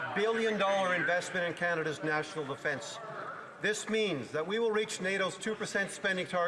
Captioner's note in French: voix de l'interprète